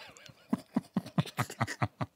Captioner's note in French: rires narquois